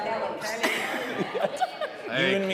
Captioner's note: audience laughing; hosts laughing